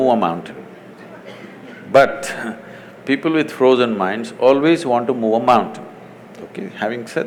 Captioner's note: laughs